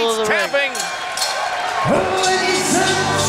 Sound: bell rings

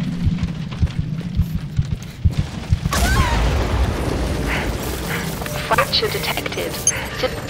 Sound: rapid heart beat

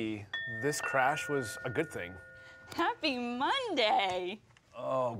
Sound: bell ringing

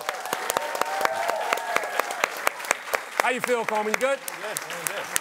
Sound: applause

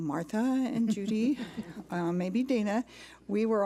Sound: laughter

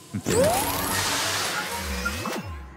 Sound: engine noises

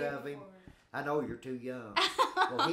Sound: chuckling

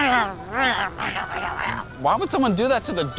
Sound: growling

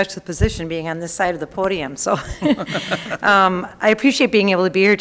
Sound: group laughing

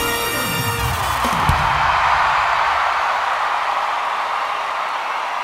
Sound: audience cheers and applauds

